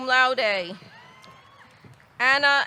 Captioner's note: audience cheering; audience clapping